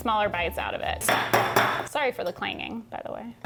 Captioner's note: metal clinking